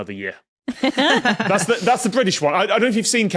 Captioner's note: laugh